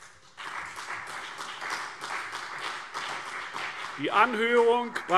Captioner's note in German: Beifall CDU und BÜNDNIS 90/DIE GRÜNEN